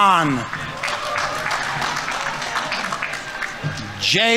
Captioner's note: audience applauding